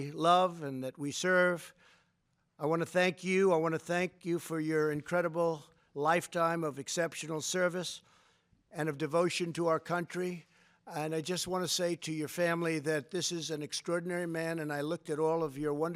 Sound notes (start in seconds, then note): none